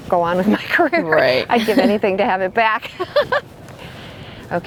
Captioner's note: laughs